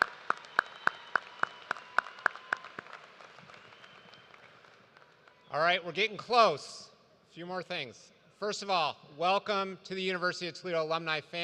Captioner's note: applause